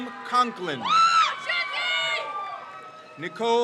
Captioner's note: crowd cheers